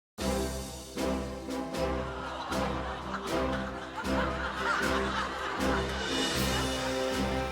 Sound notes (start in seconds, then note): 0.2 bright orchestral music; 1.9 crowd exclaims; 4.9 crowd laughs